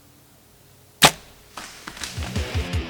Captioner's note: bow shot